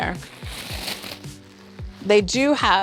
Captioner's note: paper rustling